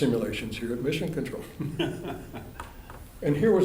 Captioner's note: laughter